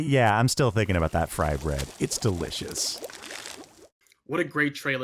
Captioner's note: oil burbling